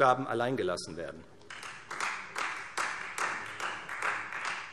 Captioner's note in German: Beifall Freie Demokraten